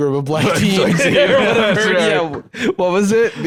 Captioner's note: both laughing